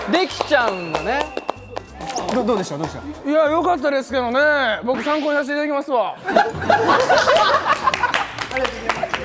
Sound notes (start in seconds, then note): 6.2 hahahaha